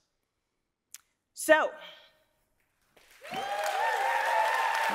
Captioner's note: audience cheering